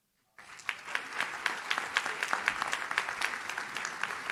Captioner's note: audience claps